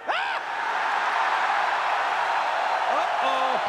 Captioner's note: crowd cheering